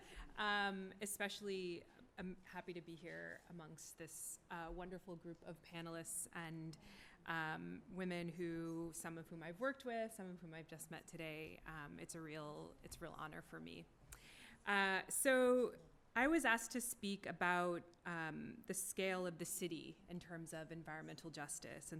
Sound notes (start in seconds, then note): none